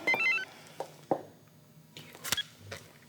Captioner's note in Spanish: exhala